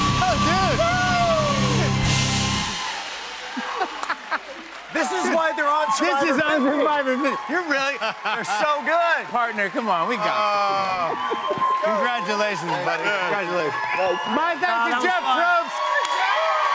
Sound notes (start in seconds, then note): 3.0 cheers and applause